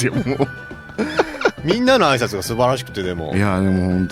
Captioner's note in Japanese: 笑い